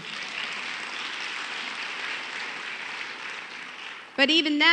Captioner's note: applause